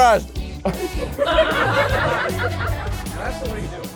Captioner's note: fans laughing